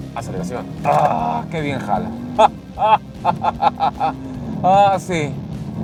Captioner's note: satisfaction laughter